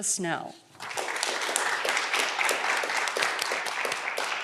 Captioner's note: audience clapping